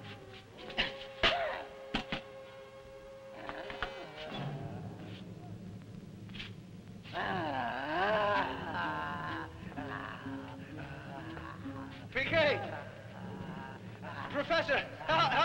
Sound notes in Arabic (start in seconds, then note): 0.0 موسيقى مشوقة; 7.0 بوبوكا تتأوه